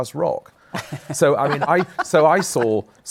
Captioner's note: laughter